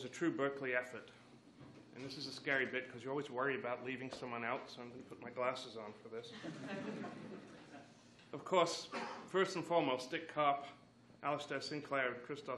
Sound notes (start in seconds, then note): 6.3 laughs